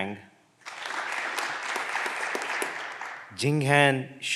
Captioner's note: clapping continues